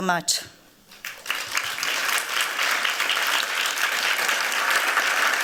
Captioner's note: applause